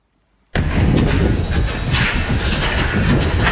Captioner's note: whooshing